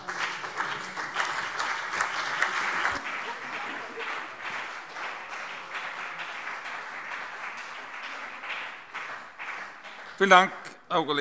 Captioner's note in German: Beifall CDU und BÜNDNIS 90/DIE GRÜNEN